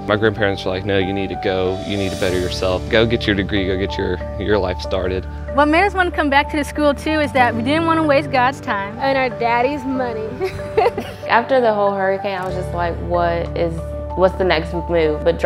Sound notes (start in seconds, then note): 10.4 laughing